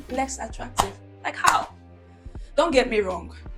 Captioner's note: clap